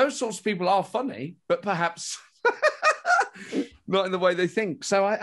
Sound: laughs

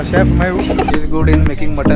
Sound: laugh

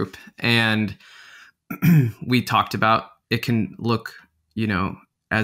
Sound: clearing throat

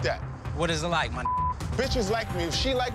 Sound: beep

